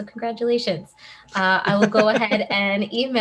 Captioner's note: laughing